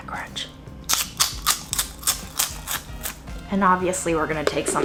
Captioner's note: chip crunching